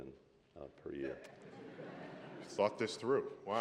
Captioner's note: laughter